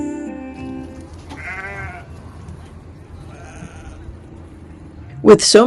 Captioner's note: sheep bleating